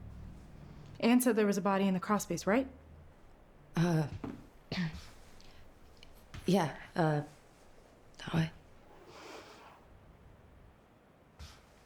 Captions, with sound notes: - Anne said there was a body in the crawl space, right? - Uh. (clears throat) Yeah. Uh, that way.